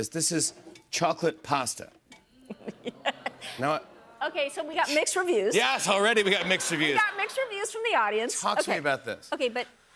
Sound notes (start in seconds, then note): 2.4 laughs; 3.8 audience murmurs